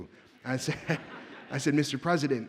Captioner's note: audience laughs